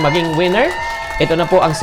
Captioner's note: applause; cheers